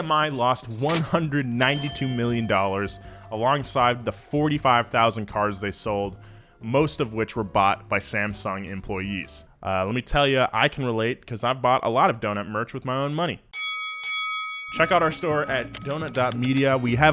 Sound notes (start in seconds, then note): 13.5 bell dinging